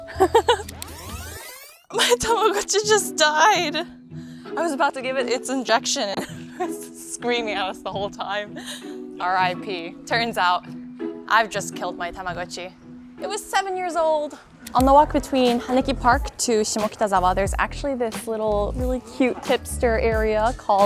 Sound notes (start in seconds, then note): 0.0 laughs; 0.6 audio warbling